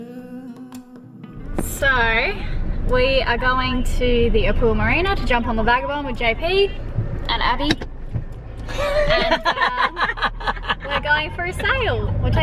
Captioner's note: slight echo audible